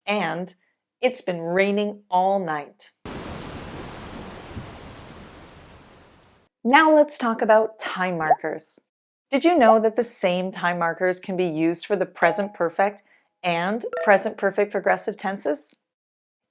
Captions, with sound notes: and “it’s been raining all night.” [heavy rain falling] Now let’s talk about time markers. Did you know that the same time markers can be used for the present perfect and present perfect progressive tenses?